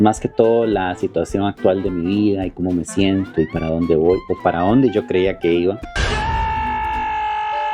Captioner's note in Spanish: grito